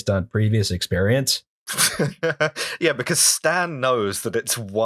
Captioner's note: laughter